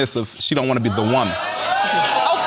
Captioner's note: audience gasping